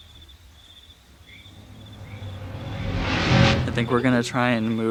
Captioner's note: eerie sound effect